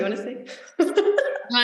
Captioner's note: laughs